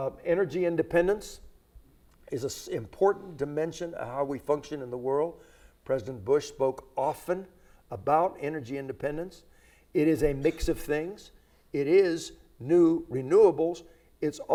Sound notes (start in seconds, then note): none